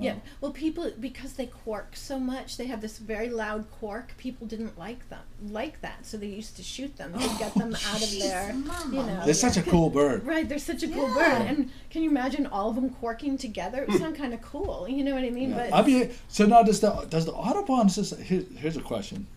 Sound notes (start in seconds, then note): 0.0 voiceover; 9.4 voiceover; 15.6 voiceover